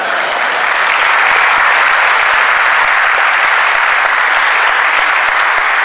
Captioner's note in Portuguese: Aplauso